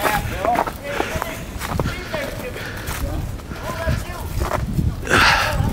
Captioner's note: everyone speaking excitedly